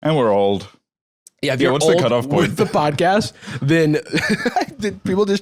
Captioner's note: laughs